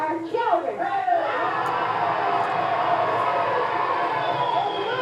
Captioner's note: cheers